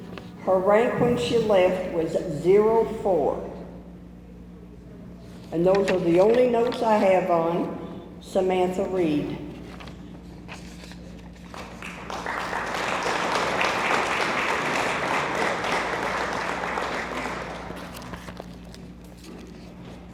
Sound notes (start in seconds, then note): 11.7 audience applauds